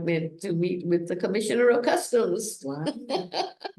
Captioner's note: laughs